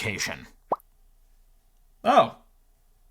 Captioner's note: letter pops